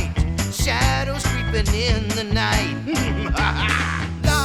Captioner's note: evil laughter